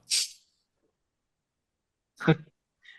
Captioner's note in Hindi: नाक से की जाने वाली आवाज़